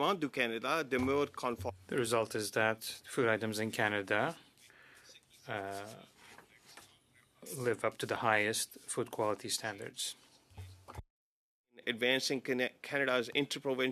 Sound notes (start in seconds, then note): 6.5 speaking French